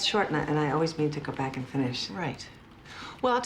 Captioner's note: none